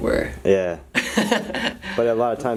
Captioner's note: laughter